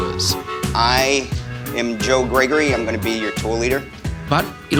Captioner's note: american accent